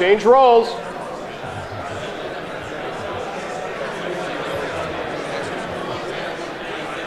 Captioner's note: chatter